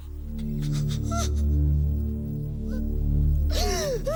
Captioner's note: whimpering